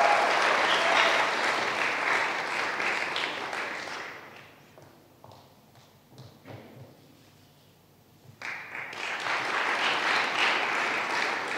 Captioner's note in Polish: oklaski